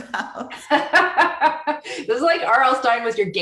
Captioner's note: laughter